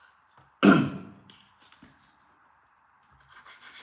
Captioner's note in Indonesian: berdehem